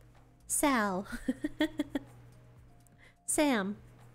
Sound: giggles

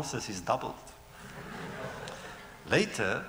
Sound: laughter

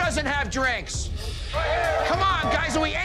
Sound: shouting

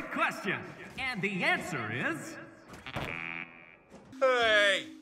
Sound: beeps

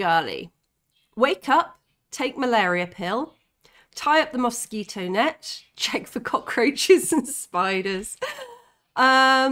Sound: laughing

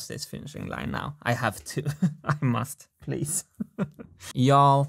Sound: chuckles

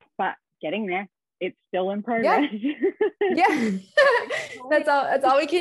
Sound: laughs

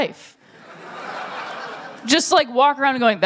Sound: laughter

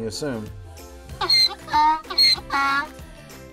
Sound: donkey braying

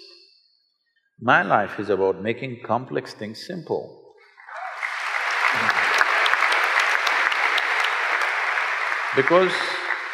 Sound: applause

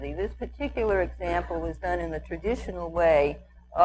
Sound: none

